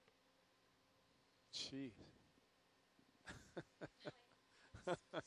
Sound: laughs

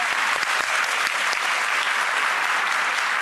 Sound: applause

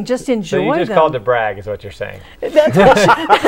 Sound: laughing

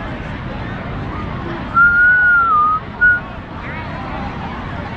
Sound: whistles randomly

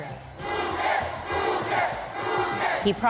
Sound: Crowd chants "Duque!"

